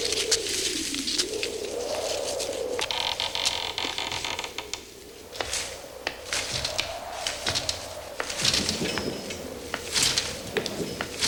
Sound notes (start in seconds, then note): 3.3 creak; 5.9 footsteps; 9.2 thunder; 11.0 footsteps